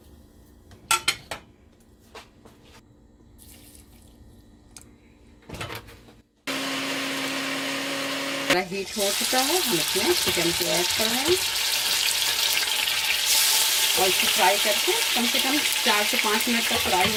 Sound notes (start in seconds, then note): 13.0 sizzle